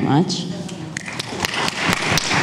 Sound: audience applauds

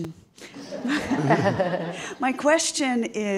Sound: audience laughing

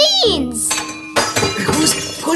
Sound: glass breaking

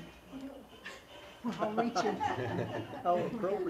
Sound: laugh

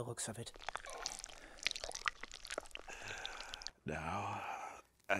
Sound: blood patters

